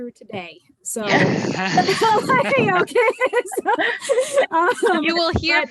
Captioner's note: laughter